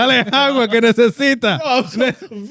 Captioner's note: speaking Spanish